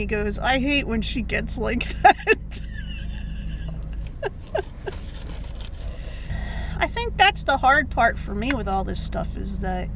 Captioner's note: laughing